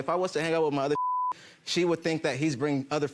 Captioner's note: beep